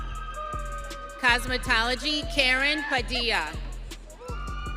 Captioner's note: audience cheering